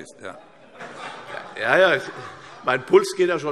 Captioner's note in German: Heiterkeit